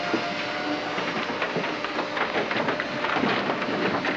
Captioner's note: none